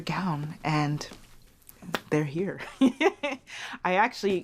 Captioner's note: laughs